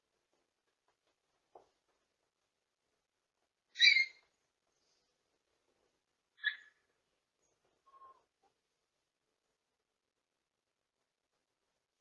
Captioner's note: Ella whimpers